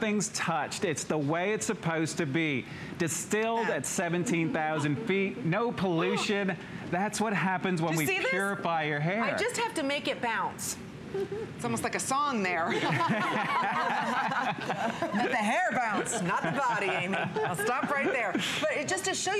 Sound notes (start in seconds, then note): 12.7 laughter